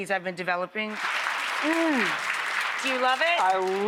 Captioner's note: audience applauding